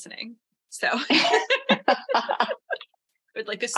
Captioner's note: laughter